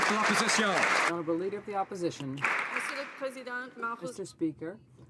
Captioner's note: applause